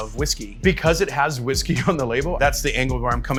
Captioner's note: laughs